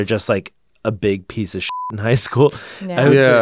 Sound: beep

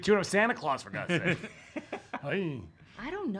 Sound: laughing

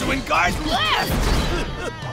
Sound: grunting

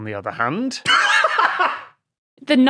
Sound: laughs uproariously

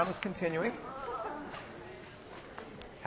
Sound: students groaning

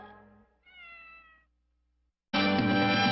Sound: Mimsie mews

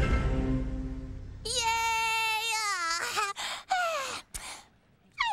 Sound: cheers

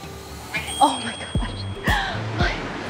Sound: timer rings; chuckles

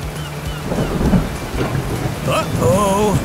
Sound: distant thunder rumbles

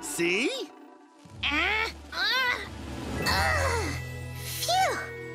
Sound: grunting

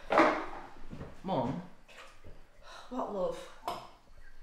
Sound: sigh

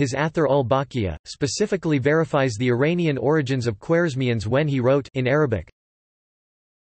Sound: in Arabic

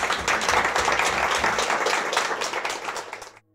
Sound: applause

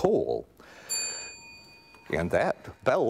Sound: bell ringing

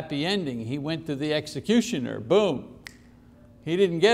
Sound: snaps fingers

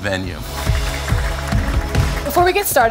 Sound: applause

